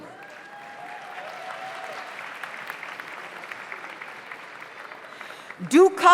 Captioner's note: audience cheers; audience applauds